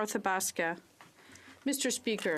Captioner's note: speaking French